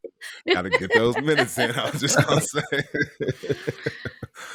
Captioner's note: laughs